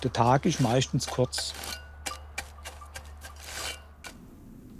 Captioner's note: metallic noise, rustling